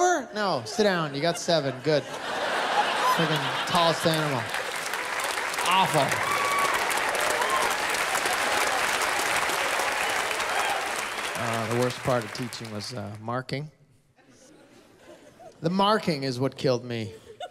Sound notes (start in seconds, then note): 0.7 laughter; 7.0 laughter, applause